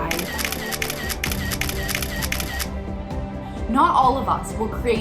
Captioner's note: camera shuttering